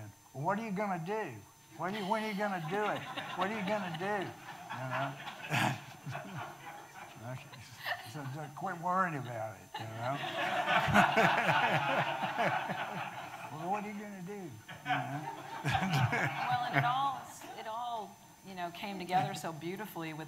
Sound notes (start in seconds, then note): 9.8 audience laughing